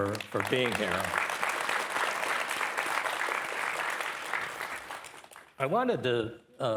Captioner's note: and participants applauding